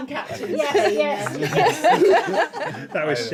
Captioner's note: laughing